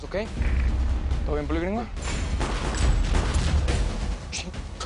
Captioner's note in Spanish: Disparos